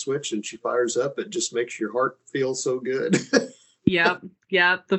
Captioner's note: laughing